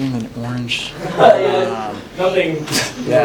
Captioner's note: laughs